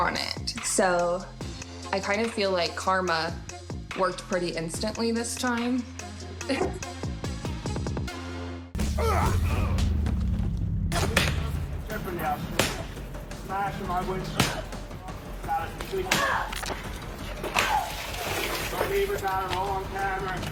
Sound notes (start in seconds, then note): 6.4 laughs; 8.8 men grunting; 15.1 woman grunts angrily